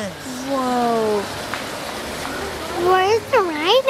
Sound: water rushing

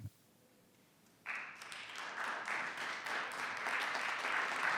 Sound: audience clapping

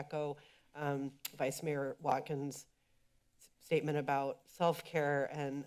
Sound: clicks tongue

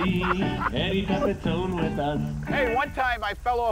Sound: laughing

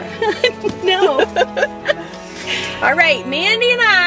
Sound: both laughing

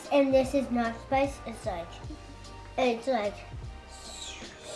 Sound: whistles

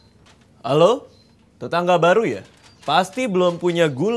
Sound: pretentious manly voice

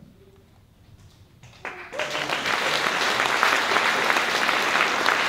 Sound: applause

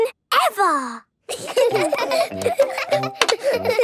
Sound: laughter

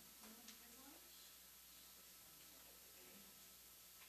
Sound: murmurs

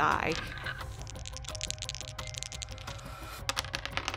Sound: dice rolling

